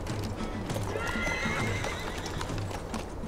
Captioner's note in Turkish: At kişnemesi